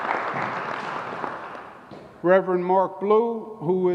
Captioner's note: applause